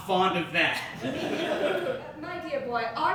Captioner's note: audience Laughing